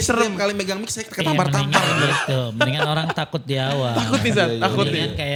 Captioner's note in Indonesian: tertawa